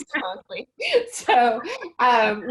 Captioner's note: chuckles